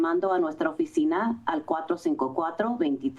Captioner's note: foreign language